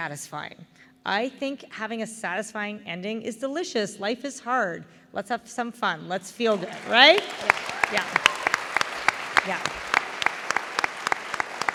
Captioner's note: applause